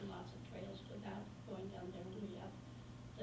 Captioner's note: faintly speaking